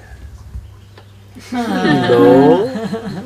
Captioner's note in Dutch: gelach